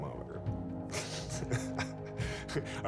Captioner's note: laughs